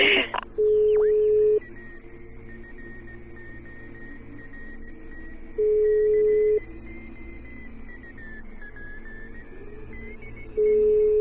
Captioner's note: phone beeping